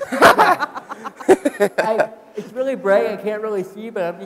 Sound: laughing

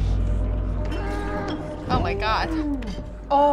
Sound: guest snarling

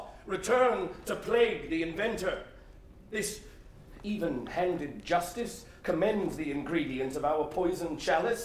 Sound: none

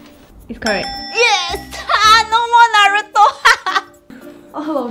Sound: laughs

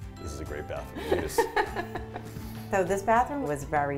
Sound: laughs

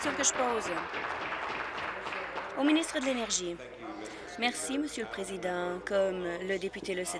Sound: applause

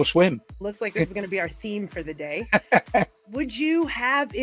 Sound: laughs

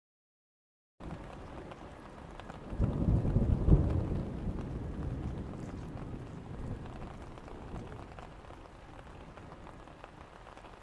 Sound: sound of thunderstorm

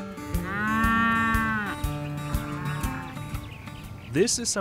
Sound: cows lowing

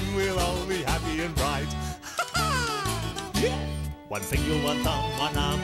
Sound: laughs

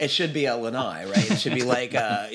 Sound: laughs

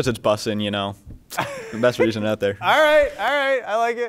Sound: laughs

